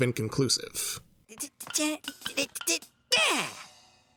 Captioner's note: humming